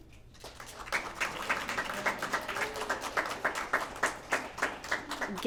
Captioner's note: applause